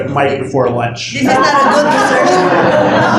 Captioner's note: laughter